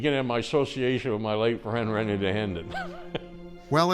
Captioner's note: chuckles; suspenseful music